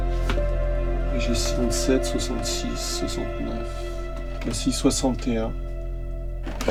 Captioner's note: speaking French